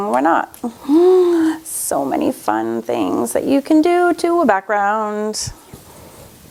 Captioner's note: gasps